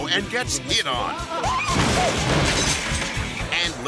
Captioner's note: interviewers exclaiming; bookcase thuds